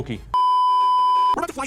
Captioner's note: beeeeeeeeeeeep